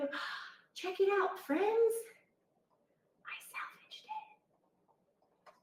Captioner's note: gasps